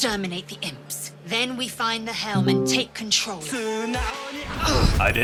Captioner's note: more githyanki noises